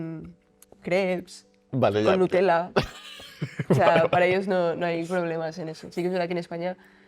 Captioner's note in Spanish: risas